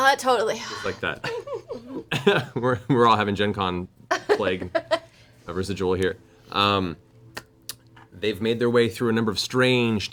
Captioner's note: laughs